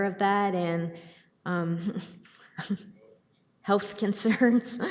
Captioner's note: chuckles